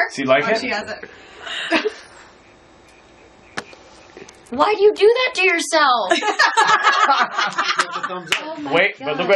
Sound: laughing

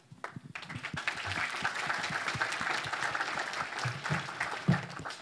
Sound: audience applauds

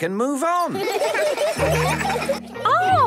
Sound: laughter

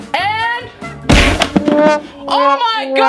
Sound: loud smack

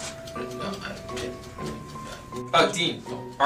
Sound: stammers

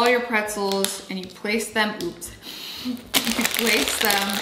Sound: laughs softly

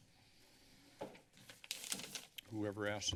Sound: papers flipping

